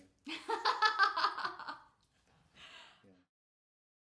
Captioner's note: laughing